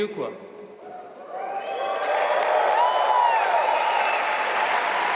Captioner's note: audience applauding